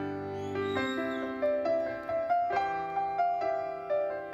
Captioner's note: audience member whistles; gentle uplifting music continues